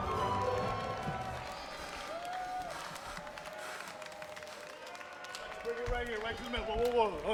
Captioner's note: applause